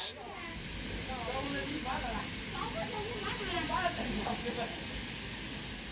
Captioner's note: speaking in foreign language